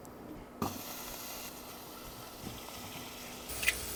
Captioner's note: food sizzling